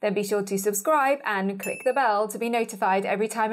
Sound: bell chimes

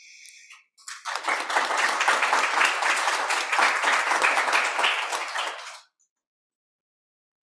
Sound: applause

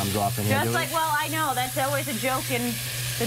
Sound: sizzling

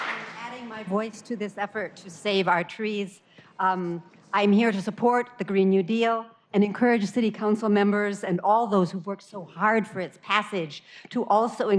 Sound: applause

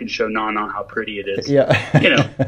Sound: laughs

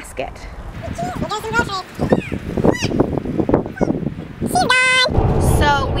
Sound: high-speed audio

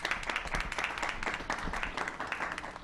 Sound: applause

